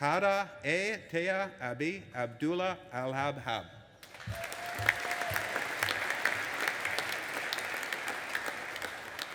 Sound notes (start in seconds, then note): 4.0 audience applauding and cheering